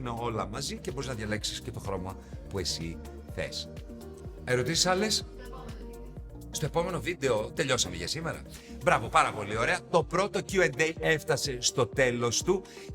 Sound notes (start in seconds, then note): none